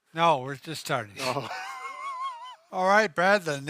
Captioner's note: chuckling